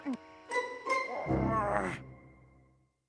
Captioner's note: groans